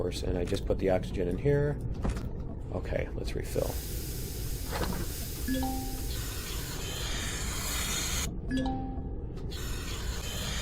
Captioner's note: oxygen hissing